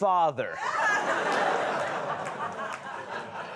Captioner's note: laughter